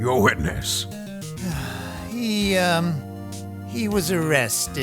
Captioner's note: sigh